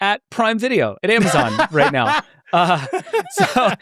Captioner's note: laughing